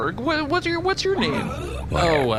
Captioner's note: quietly